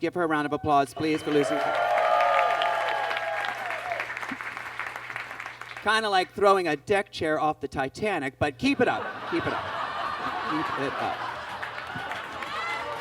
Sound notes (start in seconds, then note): 0.9 audience claps and cheers; 8.8 audience laughs